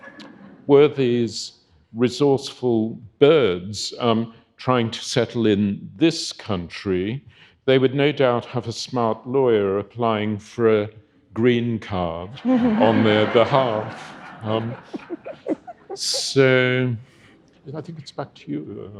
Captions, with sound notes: Were these resourceful birds trying to settle in this country, they would no doubt have a smart lawyer applying for a green card on their behalf. (audience laughing) So I think it's back to you.